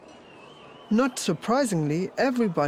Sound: crowd whistling

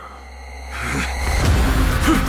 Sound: Jin grunts; both grunt

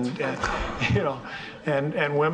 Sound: audience laughing

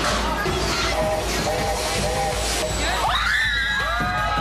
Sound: train whistle; cheers and screams

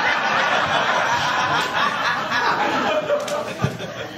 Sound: laughter

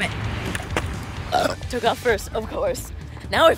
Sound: burp

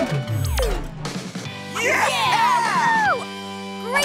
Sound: cheering

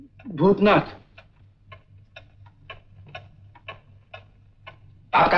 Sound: clock ticking

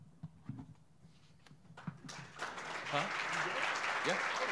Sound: audience applauding

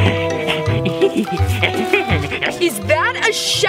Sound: playful music; monster chuckles

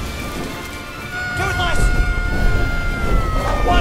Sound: screams

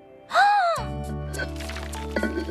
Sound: gasps; clank-Clank-Clank!

